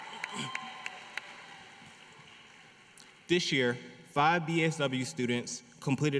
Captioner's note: applause